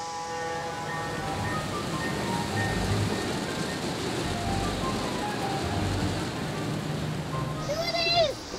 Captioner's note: model train running